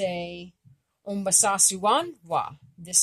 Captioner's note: speaking Abenaki